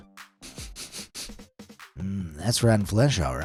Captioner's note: sniffs